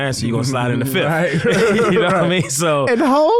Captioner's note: all laughing